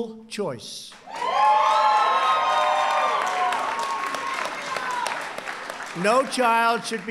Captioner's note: applause